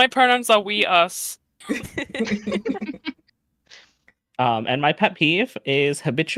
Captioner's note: chuckles